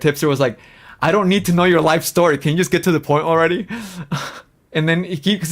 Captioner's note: laughs